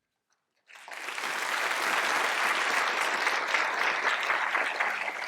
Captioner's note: applause